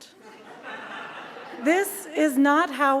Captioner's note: audience laughs